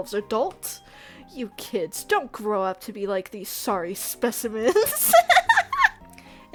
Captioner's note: laughs